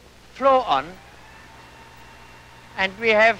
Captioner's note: faint buzzing